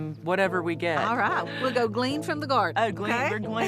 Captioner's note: laughs